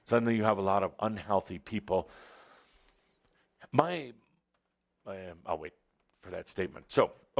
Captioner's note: he pauses